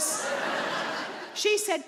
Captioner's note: audience laughing